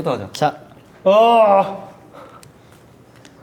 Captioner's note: shocked